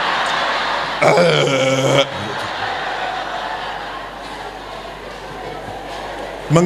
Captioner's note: applause